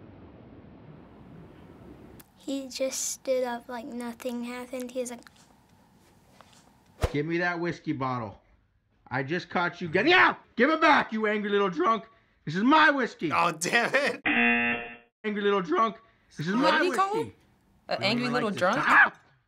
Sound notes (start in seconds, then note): 14.2 buzzer; 18.7 dog yaps